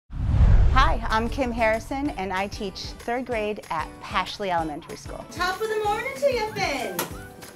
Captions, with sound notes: [Digital Woosh] [Happy music begins] Hi. I'm Kim Harrison, and I teach third grade at Pashley Elementary School. Top of the morning to you, Finn.